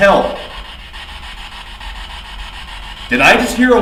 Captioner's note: static buzzing